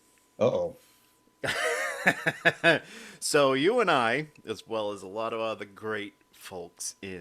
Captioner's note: laughing